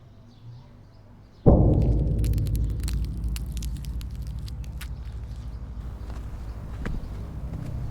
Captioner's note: crackling bones; dramatic, foreboding music